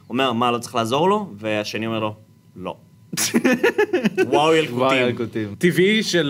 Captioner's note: snickers